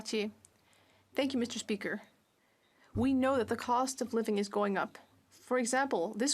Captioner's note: speaking French